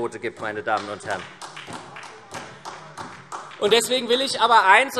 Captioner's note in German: Vereinzelter Beifall SPD